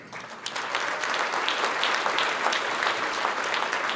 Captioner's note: audience clapping